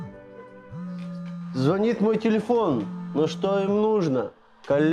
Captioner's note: ringing